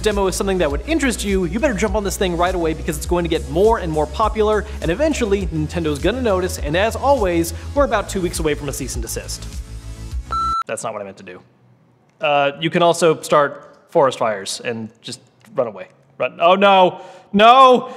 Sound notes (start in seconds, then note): 10.3 beep